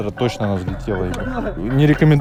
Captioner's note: laughing